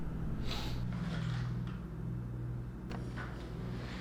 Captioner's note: sniffs